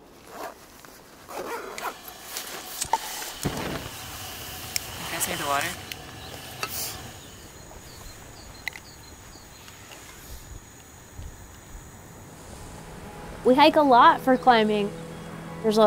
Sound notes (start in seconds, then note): 1.2 zipper running; 2.6 knob turning; 7.5 frogs croaking; 10.9 wind rustling